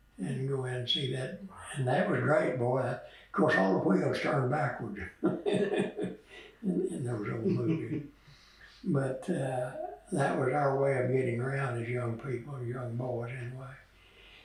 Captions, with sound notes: would go in to see that. That was great. Of course all the wheels turn backwards in those old movies. (Laughs) But that was our way of getting around as young people, young boys anyway.